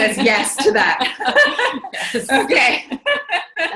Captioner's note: laughs